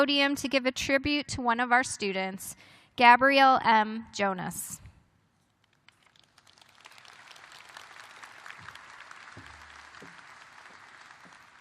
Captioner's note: applause